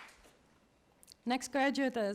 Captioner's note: applause